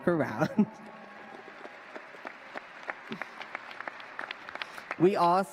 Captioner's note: applause